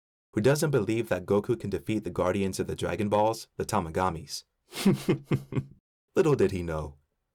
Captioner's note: small chuckle